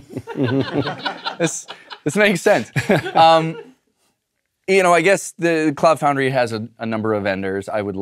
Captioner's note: laugh